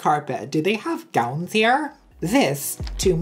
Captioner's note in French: voix caricaturale; voix caricaturale